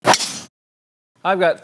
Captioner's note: golf ball thwacks